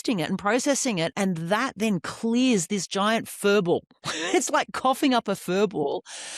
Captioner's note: laughs